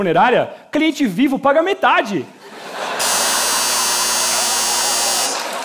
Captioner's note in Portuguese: campainha